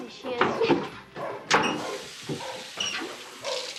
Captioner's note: gagging; water running